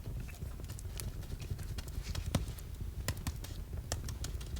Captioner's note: crackling continues